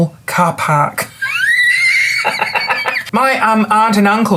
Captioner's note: belly laughs